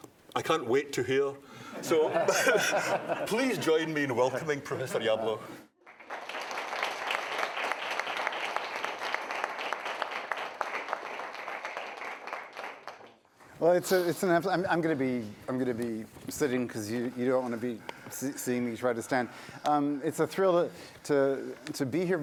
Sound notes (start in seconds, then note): 1.7 laughter; 5.9 applause